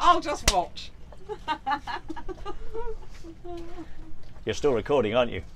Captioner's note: laughters